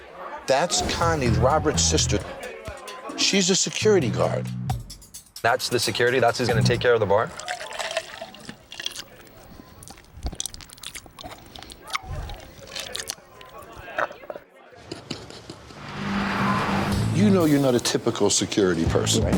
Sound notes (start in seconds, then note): 7.2 ice clinking; 11.1 slurping